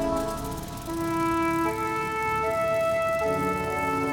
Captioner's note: propeller whirring